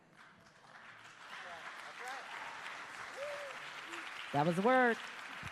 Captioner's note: applause